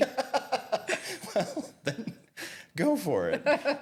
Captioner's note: both laughing